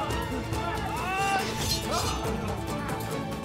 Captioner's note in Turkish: Kılıç sesleri